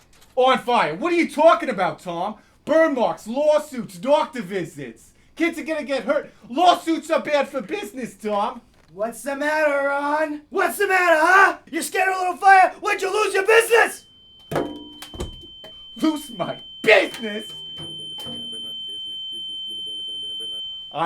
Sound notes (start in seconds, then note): 14.5 thudding; 18.5 buzzing